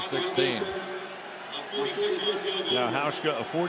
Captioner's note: pa announcement